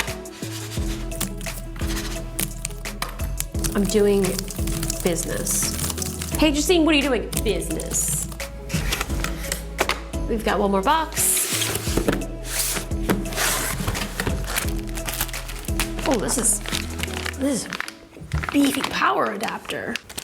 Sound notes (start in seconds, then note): 0.2 mouse slides on desk and keys clack; 2.9 fingers click on mouse; 5.4 keys continue to clack; 11.4 box slides across desk; 12.4 cardboard scraps and plastic crinkles